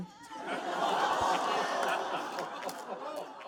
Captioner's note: audience laughing